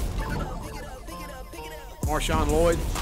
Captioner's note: retro game beeping